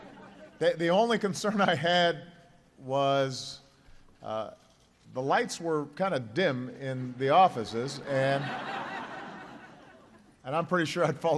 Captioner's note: laughter